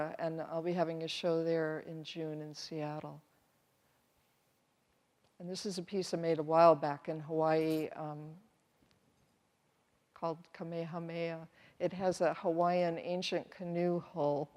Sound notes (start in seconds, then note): none